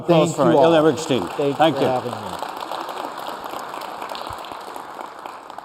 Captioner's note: applause